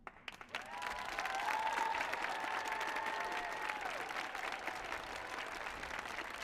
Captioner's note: audience clapping; audience cheering